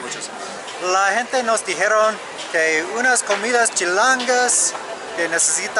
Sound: Spanish

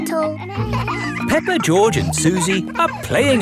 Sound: kids laughing

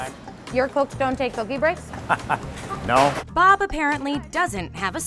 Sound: laughing

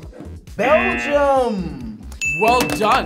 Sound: buzzer blares; bell dings

